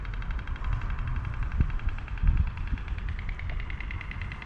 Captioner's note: stork clattering